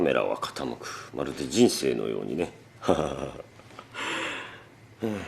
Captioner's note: laughs